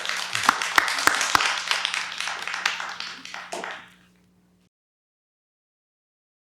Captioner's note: applause